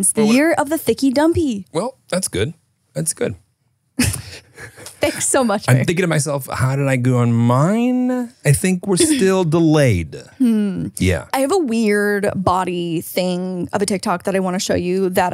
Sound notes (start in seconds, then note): 4.0 laughing